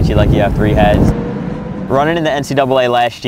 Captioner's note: traffic, city sounds